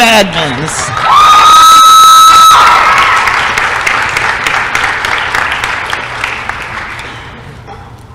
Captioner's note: applause & cheering